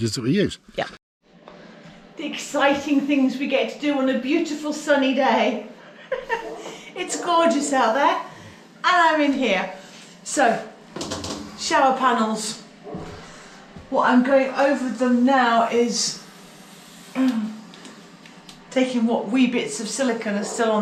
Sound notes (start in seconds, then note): 5.9 laughter